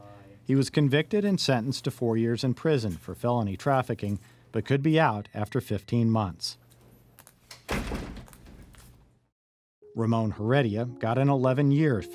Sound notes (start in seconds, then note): 7.5 door closing